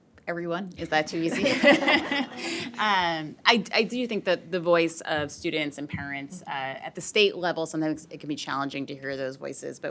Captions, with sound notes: - Everyone. Is that too easy? (audience laughing) I do think that the voice of students and parents, at the state level, sometimes it can be challenging to hear those voices,